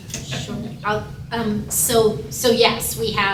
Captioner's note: laughter